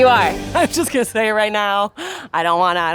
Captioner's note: laughs